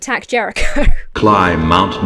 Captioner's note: Emma laughs